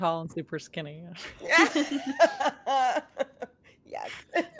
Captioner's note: cast members laughing